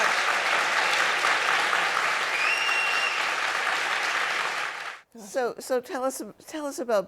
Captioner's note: applause